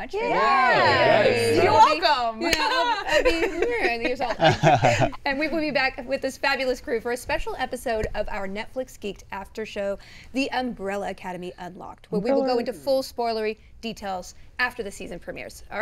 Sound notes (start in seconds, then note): 2.6 laughs; 3.1 Tom laughs